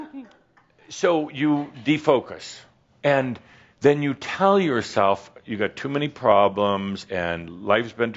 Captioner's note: some chuckles